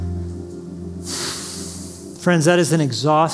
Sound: sighs

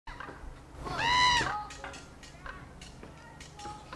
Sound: bird calling

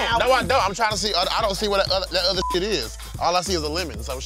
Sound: beep

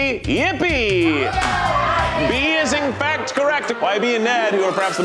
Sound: contestants cheer

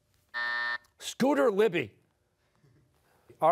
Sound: buzzer sounding

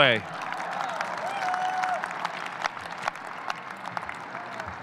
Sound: audience cheering

